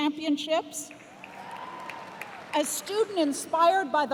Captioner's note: cheers and applause